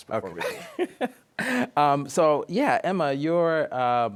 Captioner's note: laughs